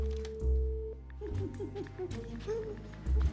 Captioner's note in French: rire